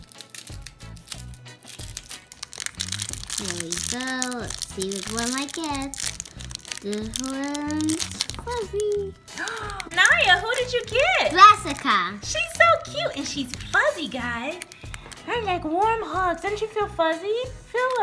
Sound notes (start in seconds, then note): 0.2 plastic crinkling; 9.0 gasps; 9.4 voiceover; 12.5 voiceover